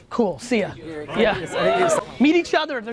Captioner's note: crowd cheers